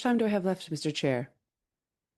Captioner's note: speaking in French